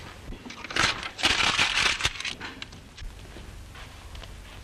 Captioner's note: fire crackling